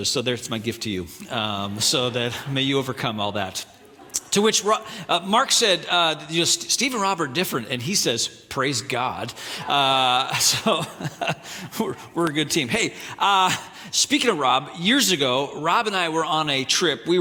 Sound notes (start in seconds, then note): 9.6 audience laughing